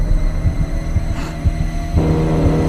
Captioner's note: gasp